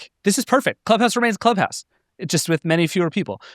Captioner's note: none